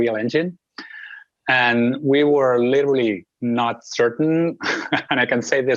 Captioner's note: laughs